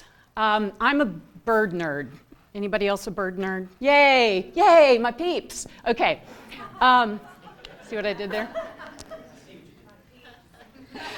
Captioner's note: laughter